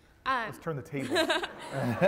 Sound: laugh

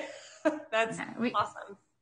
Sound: laughs

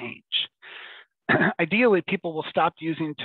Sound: clears throat

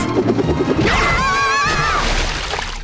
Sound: screaming

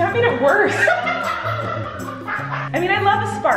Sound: laughing

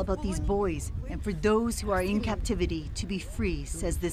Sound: speaking in alternate language

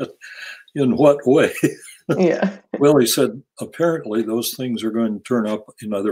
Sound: laughs

